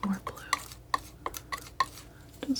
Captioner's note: scratching noise